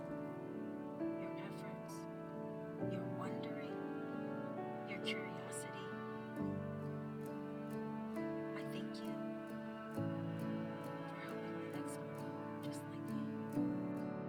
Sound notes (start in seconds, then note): 3.0 quietly